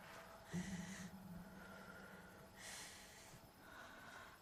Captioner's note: Betty exhaling; insects chirping